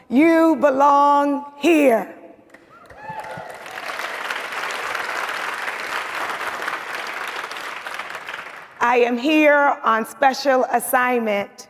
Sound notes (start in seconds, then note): 2.6 audience cheers and applauds